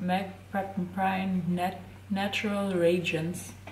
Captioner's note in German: none